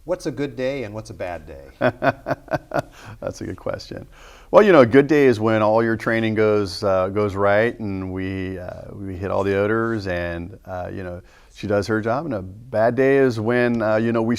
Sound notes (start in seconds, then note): 1.7 laughing